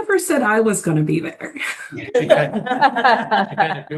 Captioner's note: chuckling